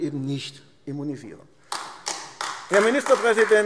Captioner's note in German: Beifall AfD